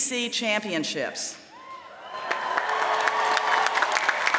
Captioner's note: applause